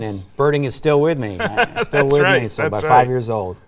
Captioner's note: laughing